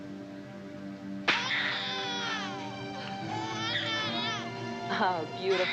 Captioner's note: book shuts, baby screams and cries